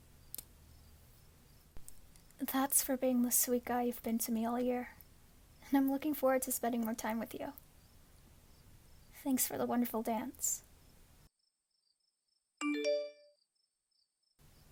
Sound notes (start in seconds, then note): 12.6 phone notification